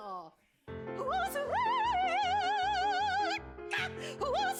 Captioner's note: in posh accent; in shrill voice